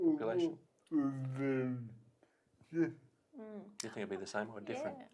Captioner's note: murmurs